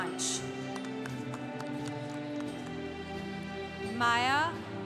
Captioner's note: congregation applauding